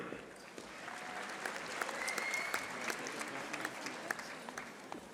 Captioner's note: audience applauding